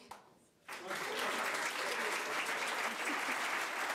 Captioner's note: crowd applause